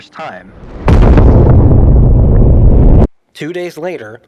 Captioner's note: loud explosion